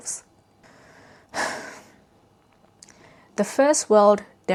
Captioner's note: sighs